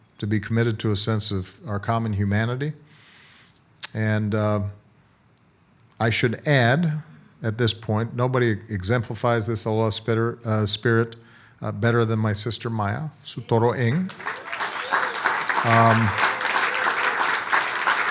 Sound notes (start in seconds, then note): 13.2 speaking foreign language; 13.9 audience applauds